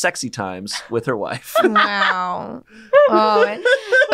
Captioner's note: laughs